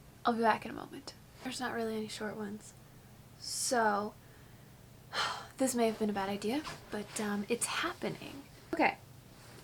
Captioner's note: sigh